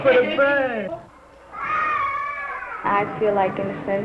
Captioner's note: children screaming